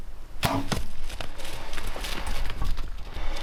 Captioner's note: arrow firing